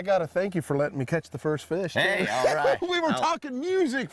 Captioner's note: laughs